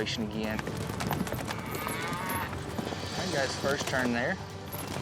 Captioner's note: hoof beats, mooing